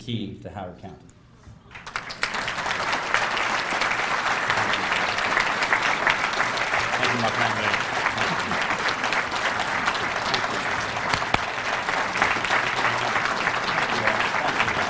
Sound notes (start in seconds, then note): 1.7 applause